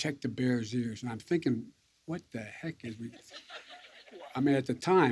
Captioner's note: laughter